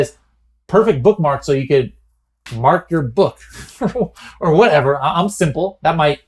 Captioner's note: laughs